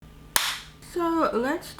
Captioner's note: clap